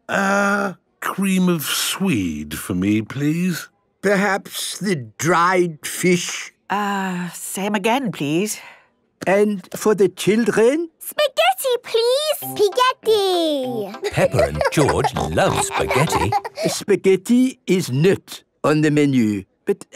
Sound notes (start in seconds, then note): 13.9 laughing